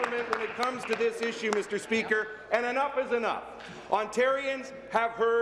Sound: applause

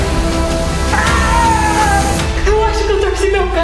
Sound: screams

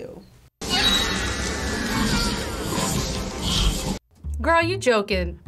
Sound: person screaming; monster snarling

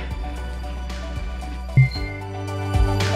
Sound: beep

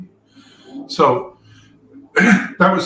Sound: cough

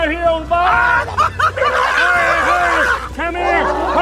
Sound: yelling

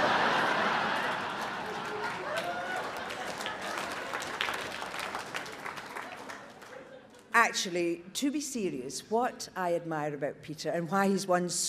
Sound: audience laughs

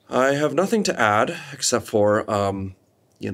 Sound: none

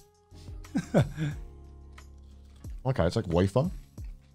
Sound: laughs

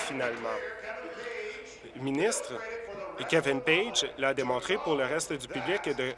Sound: applause

